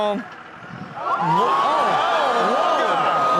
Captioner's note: audience awes shockingly